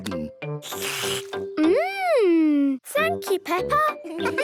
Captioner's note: slurps